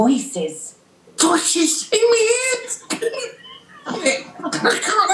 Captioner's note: childlike voice; A wet chuckle